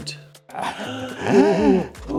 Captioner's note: laughing